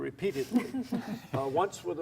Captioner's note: laughs